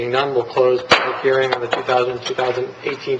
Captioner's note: gavel striking